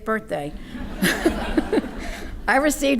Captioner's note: audience laughing